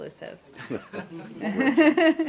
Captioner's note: laughter